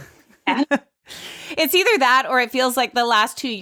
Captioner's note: laughs